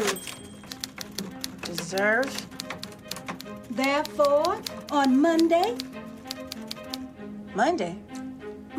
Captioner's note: typewriter dings